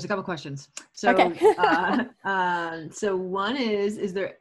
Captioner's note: laughs